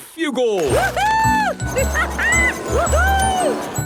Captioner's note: laughing